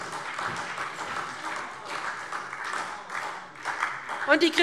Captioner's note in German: Beifall SPD